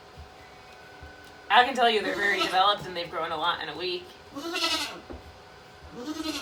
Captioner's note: Maybel bleating